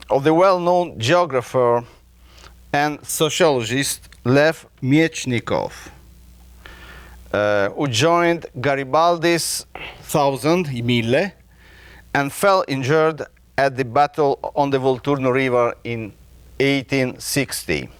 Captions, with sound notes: of the well-known geographer and sociologist Lev Mechnikov, who joined Garibaldi's Thousand, (speaking a foreign language) and fell injured at the battle on the Volturno River, in 1860.